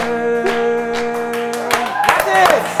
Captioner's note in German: Jubel, Applaus